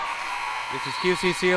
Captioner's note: buzzer buzzing